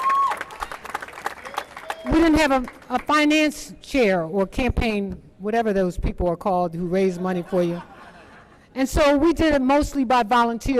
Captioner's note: applause